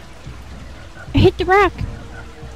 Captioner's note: silly voice